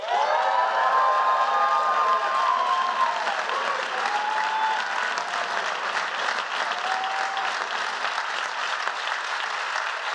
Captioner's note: applause